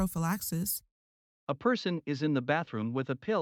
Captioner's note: voiceover